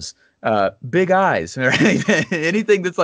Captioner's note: laughs